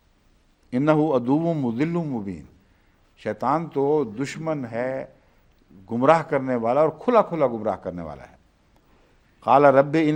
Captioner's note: Arabic